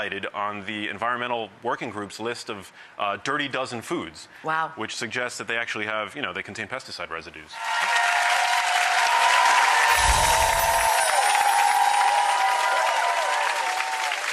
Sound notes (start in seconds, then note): 7.5 audience applauding; 9.9 wind chime tinkling